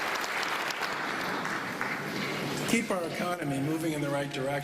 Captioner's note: applause